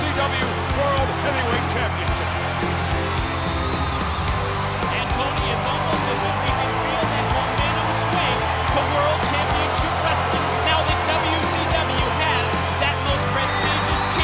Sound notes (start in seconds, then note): 5.3 crowd cheering